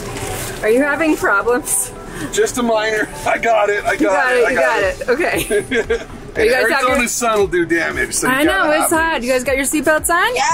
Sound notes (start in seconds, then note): 5.3 laughs